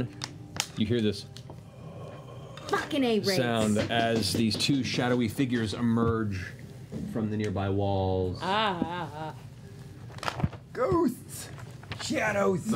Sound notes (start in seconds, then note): 1.5 breathy noise